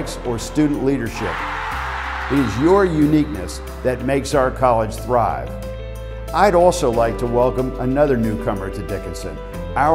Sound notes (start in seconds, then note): 1.1 crowd cheering